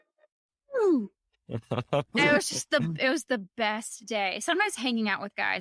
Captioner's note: laughing